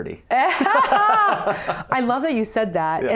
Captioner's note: both laughing